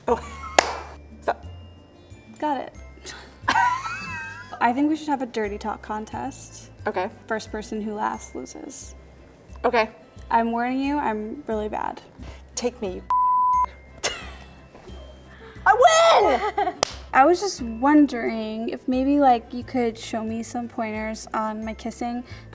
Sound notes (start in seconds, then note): 0.7 laughing; 13.1 beeping; 14.0 woman laughing